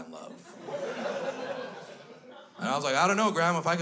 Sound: crowd laughs

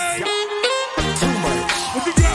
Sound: audience cheering

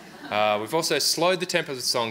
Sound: audience laughs

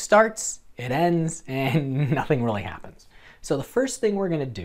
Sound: chuckles

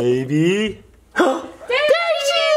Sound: gasp

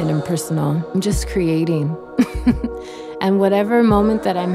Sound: laughs

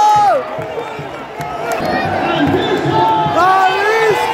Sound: clap

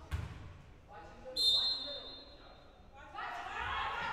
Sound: whistle blowing

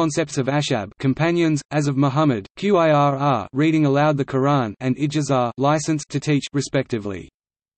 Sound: 'reading aloud the Qur'an'

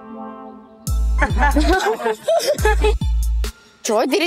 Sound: laughs

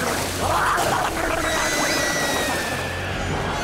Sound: screaming

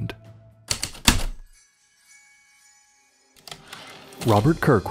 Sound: typewriter keystrokes, return slide

